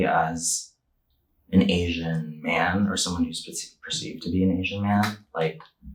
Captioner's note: none